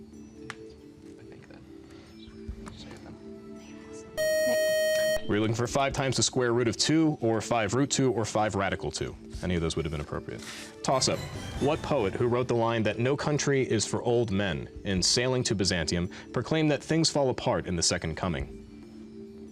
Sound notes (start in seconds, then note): 0.9 whispering; 4.2 beep